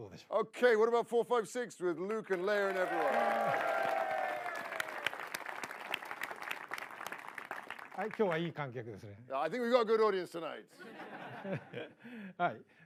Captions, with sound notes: Okay what about four, five six with Luke and Leia and everyone. [MASSIVE APPLAUSE] I think we've got a good audience tonight. [LAUGHTER]